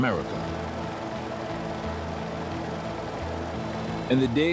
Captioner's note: machine whirs